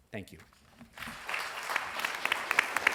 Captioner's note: applause